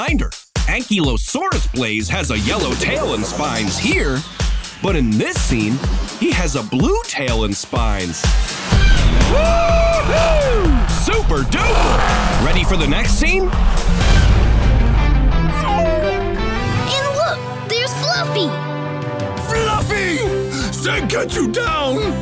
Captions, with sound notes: Ankylosaurus Blaze has a yellow tail and spines here, but in this scene he has a blue tail and spines. Whoo-hoo! Super-duper! Ready for the next scene? [whimpering] And look, there's Fluffy! Fluffy! Zeg get you down!